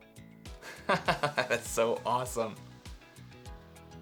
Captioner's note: laughs